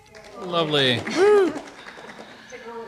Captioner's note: applause